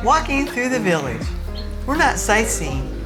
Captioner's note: laughing